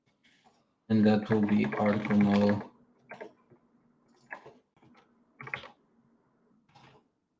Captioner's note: keyboard clacking